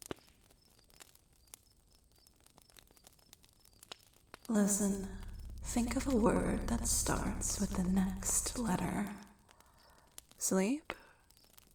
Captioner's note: echoing